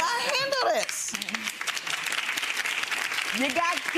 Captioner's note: audience claps